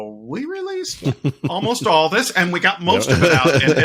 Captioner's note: laughing